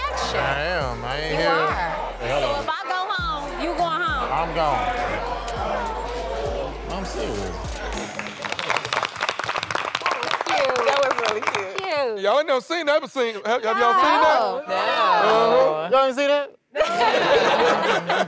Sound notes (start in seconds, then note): 7.9 applause; 16.8 laughter